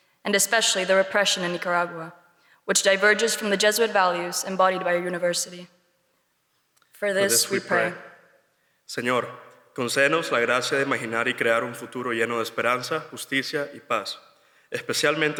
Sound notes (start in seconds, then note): 9.1 speaks Spanish